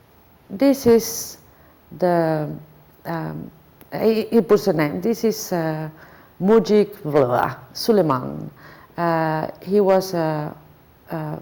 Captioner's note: foreign language